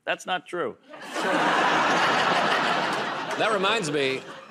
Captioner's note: laughter